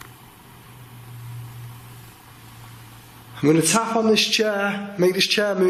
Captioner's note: none